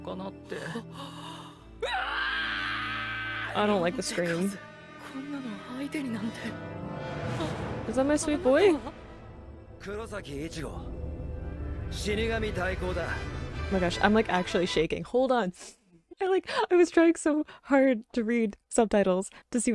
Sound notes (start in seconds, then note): 1.8 screaming; 6.2 speaking in foreign language; 10.3 speaking in foreign language